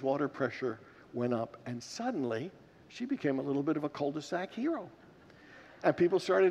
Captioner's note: congregants laugh